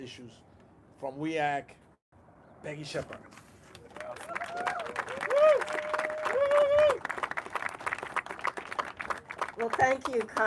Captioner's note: applause